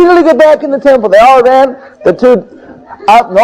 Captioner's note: devotees laughing